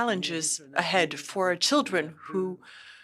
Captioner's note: speaking French